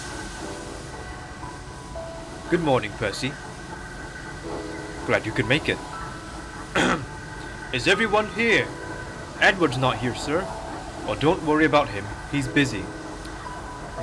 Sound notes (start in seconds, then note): 6.7 clears throat